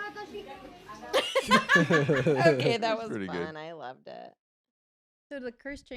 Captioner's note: laughs